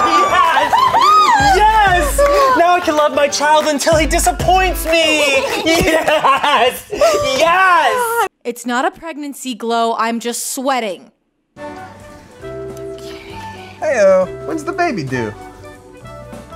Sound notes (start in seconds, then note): 6.9 awkwardly cheers some more by himself